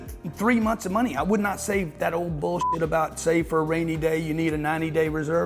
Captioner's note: beep